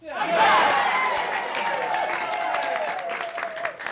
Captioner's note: all cheering